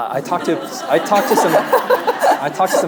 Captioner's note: audience laughing; laughing